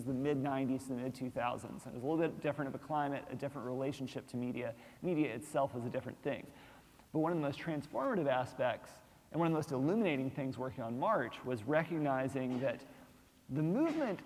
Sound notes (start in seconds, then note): none